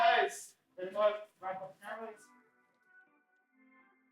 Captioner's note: people talking